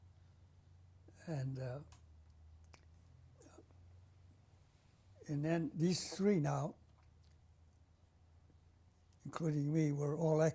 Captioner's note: pauses for 3 seconds